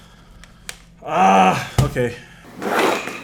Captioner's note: frustrated noises